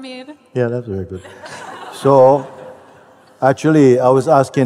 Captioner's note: laughter